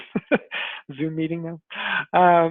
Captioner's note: laughs